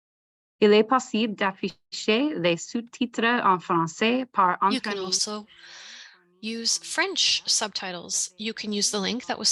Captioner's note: French